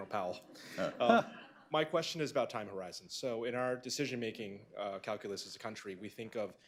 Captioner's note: laughter